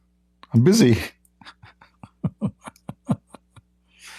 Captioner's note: Ketawa